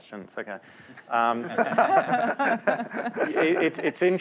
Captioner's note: laughter